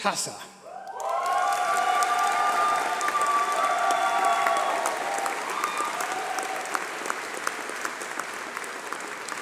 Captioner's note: applause